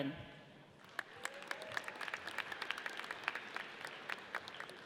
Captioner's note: audience applauds